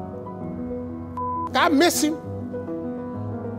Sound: beep

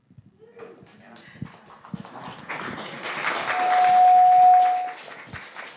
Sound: audience applauds

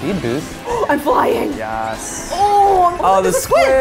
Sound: gasps

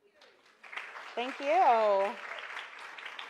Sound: applause

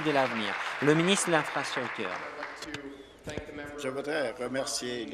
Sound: applause

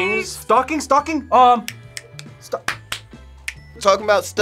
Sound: snaps fingers

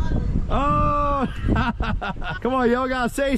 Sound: laughing

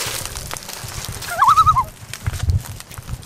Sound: loon call

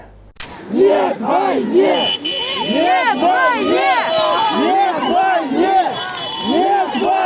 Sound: chanting

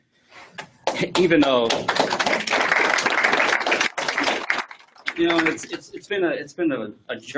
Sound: applause

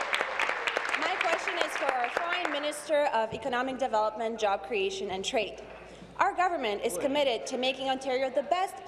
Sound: applause

